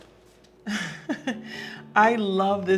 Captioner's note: Serena chuckling